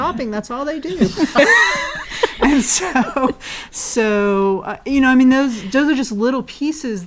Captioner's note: laugh